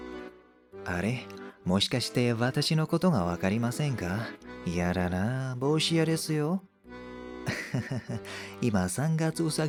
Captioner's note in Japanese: 笑い